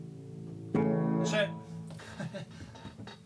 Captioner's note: laughs